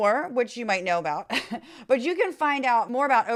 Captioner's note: laugh